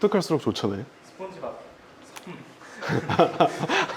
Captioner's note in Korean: 웃음